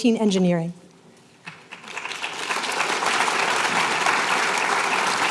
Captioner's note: applause